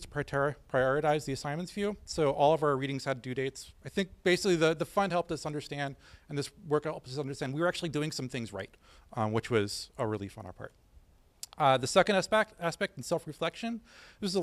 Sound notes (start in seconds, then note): none